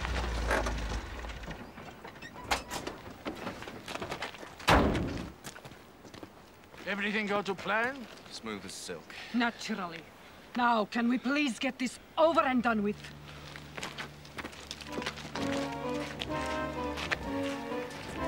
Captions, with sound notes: (door slams) - Everything go to plan? - Smooth as silk. - Naturally, now can we please get this over and done with? (slow carnival music)